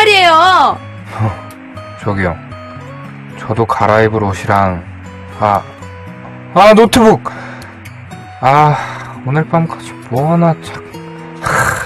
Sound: sighs

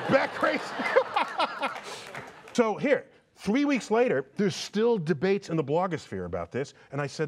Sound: laughter

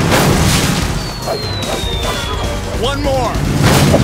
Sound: swishing

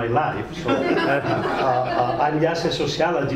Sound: crowd laughing

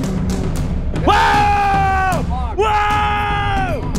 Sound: screaming

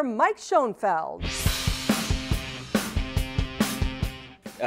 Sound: sound Effects

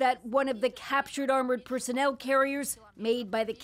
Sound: speaking alternate language

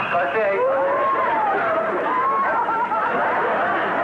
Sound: laughing

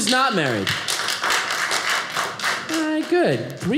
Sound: audience applauding

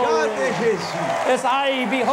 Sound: crowd cheering

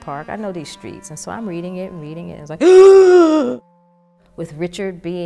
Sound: gasp

